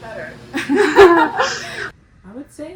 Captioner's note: laugh